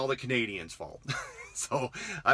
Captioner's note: laughs